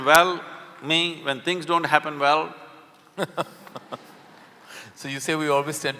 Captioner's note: Karan Johar laughs